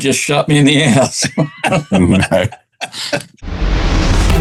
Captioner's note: laughter